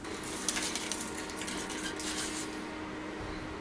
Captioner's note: crafts rustling